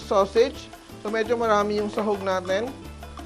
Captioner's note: sizzle